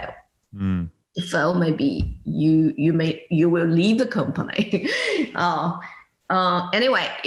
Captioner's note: laughs